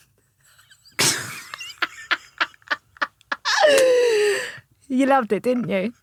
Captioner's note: laughing